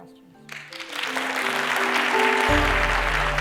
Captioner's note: applause